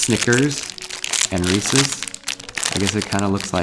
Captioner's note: candy wrappers crinkle